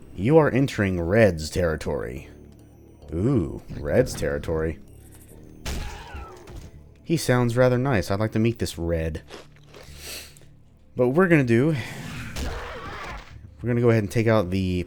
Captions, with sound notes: "You are entering Red's territory!" Ooh, Red's territory! *another Bugdog growl* He sounds rather nice; I'd like to meet this Red. But, what we're gonna do... *THWACK* we're gonna go ahead and take out the